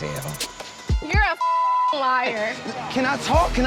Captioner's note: beeping